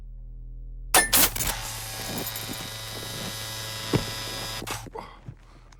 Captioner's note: machine clanks; currents buzzing; gasps